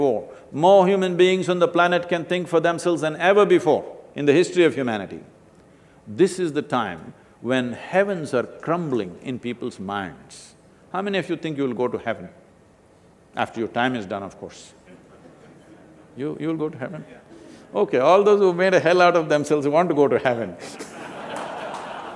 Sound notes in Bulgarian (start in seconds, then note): 14.8 Смях; 20.7 Смях/Ръкопляскане